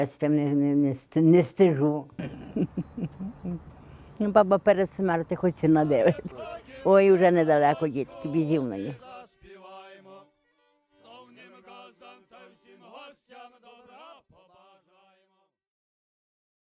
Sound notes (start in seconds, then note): 2.1 she laughs